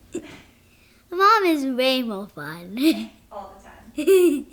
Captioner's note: laughing; laughing